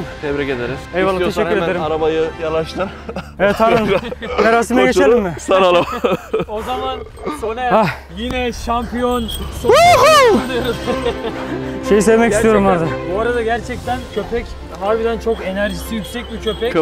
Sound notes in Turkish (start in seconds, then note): 2.7 Gülüşmeler; 10.6 Kutlama müziği sesi